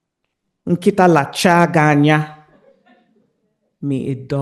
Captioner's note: Chimamanda speaks in a foreign language